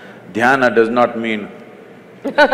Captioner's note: laughter; laughs